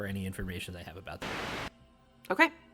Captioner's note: static